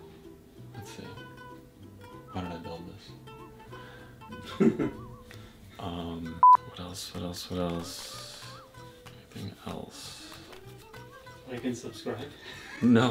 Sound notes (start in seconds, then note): 4.4 laughs; 6.4 beep; 12.4 laughs